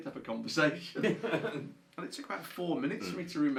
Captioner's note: laughs